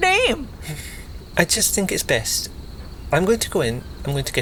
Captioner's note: sigh